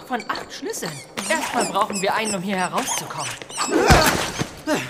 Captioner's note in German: Schreckenslaut